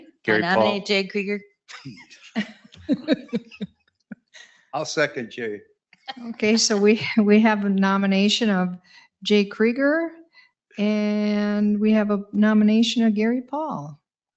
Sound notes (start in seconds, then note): 2.1 people chuckle